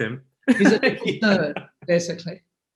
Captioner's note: laughs